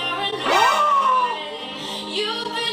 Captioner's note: gasps